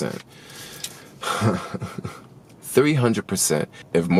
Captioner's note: laughs